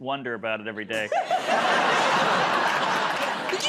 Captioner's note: laughter